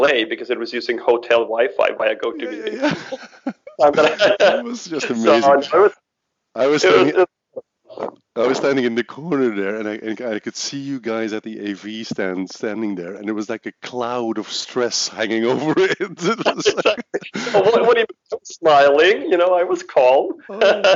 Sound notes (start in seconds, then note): 2.3 laughs; 3.0 mumbles; 15.3 laughs; 20.3 laughs